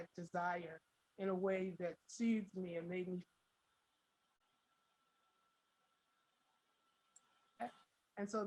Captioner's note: audio drops